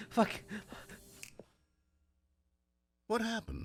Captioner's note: panting; finger snap